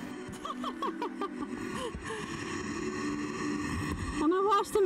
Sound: laughs

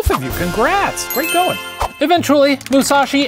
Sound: bells chiming

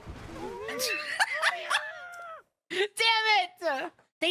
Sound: laughter

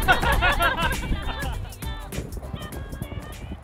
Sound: laughter

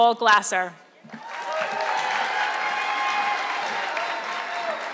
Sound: audience clapping

